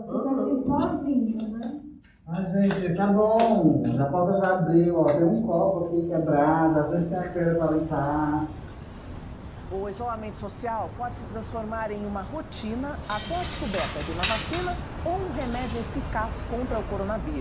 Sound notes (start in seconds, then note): 8.3 radio and traffic sounds